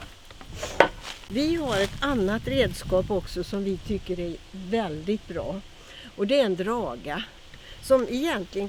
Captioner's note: dragging tool